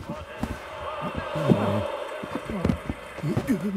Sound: crowd cheering

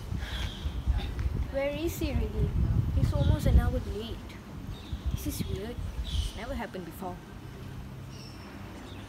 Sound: sigh

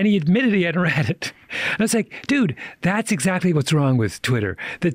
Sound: chuckles

